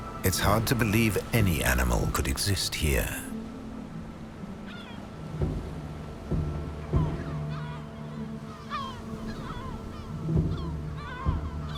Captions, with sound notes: It's hard to believe any animal could exist here. (gulls cawing) (light music continues)